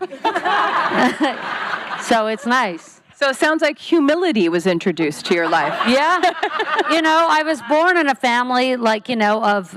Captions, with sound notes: [laughing] So it's nice. So it sounds like humility was introduced to your life. -[laughing] -Yeah, you know. I was born in a family, like, you know, of,